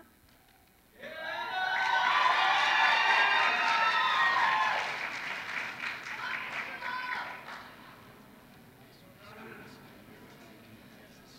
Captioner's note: applause